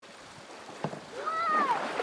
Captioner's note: water sloshing